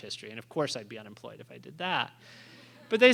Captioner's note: laughter